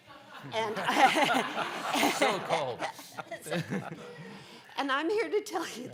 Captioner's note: laughing